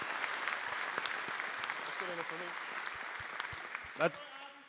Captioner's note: cheering; applause